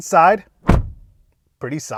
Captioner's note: door closing